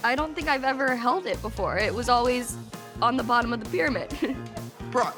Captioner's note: laughs